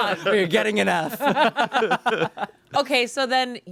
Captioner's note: everyone laughs